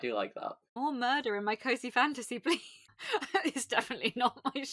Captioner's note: laughing